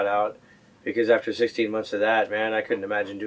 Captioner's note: none